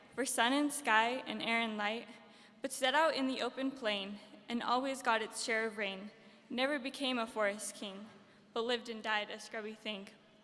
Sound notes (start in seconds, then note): none